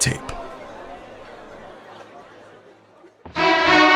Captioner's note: crowd chattering indistinctly